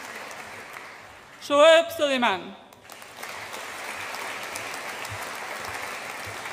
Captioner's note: audience applauds